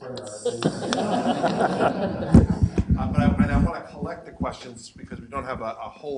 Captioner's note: laugh